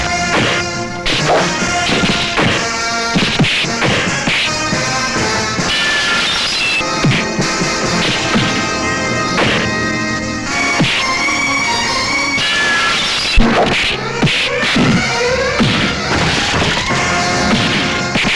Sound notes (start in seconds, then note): 5.5 glass shatters; 12.4 glass shatters